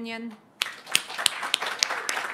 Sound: applause

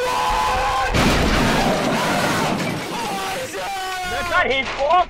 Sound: car crash and falling off his chair for attention

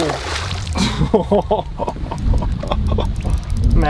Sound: laughs

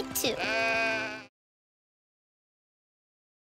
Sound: sheep baaing

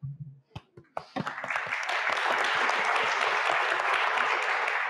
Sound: audience clapping

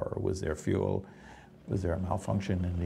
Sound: voiceover

